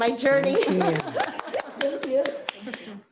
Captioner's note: members applauding